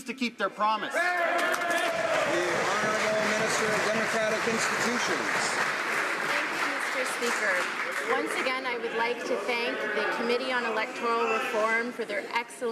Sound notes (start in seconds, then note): 4.1 some Applause